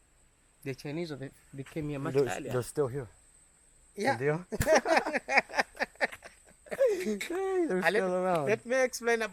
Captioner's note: laughter